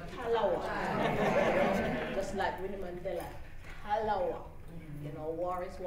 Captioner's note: laughter